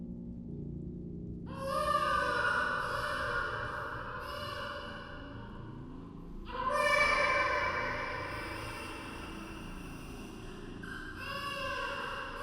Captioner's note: distorted child's crying